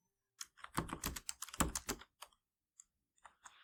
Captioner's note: typing on keyboard